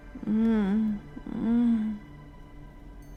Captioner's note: groans sleepily